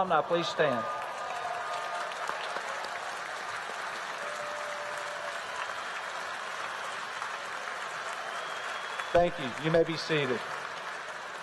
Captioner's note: applause